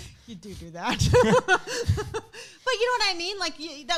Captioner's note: laughing